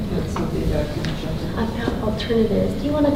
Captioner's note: speaking softly